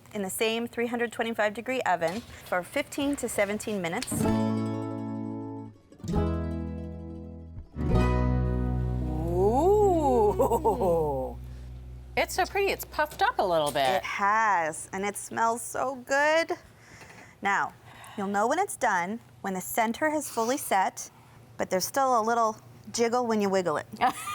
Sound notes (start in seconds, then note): 4.3 light country-folk music; 9.2 laughs; 24.2 laughs